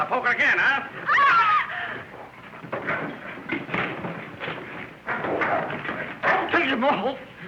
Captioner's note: woman's scream